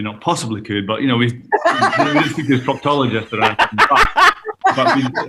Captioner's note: laughter